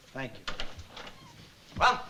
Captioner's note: door clicks